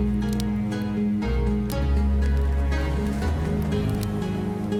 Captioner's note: fire crackling